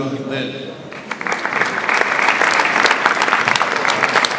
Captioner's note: audience applauds